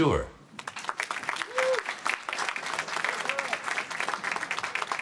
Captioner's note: applause